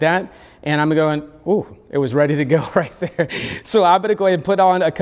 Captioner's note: laughs